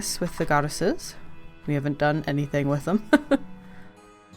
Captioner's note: laughs